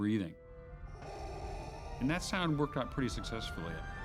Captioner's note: mechanical breathing